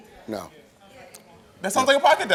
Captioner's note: audience murmurs in agreement